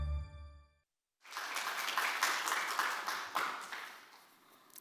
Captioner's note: attendees applauding